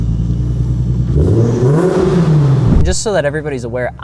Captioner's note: engine revving